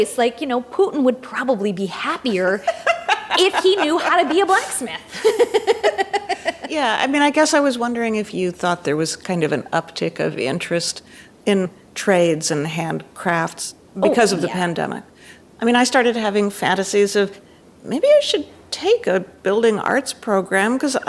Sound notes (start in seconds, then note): 2.3 guffaws; 6.0 laughs